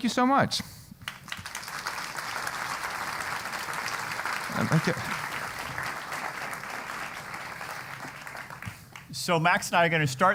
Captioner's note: applause